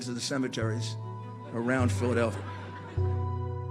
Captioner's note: audience laughter